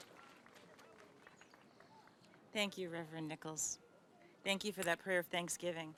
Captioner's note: applause